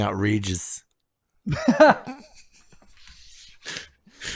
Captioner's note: both laughing